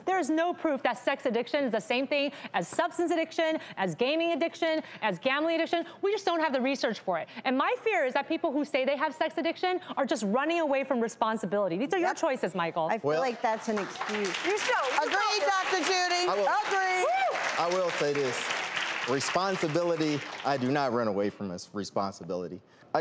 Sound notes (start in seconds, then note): 16.5 cheering